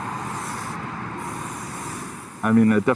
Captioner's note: paint sprays